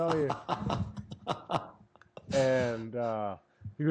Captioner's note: laughter